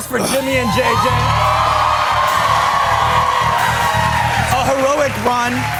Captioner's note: cheers and applause